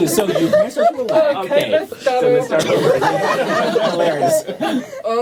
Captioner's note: laughter